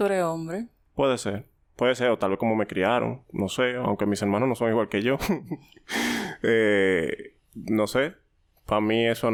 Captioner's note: laughs